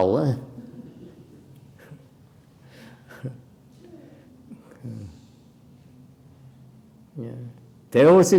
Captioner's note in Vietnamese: laughter